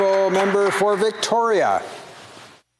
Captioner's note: some Applause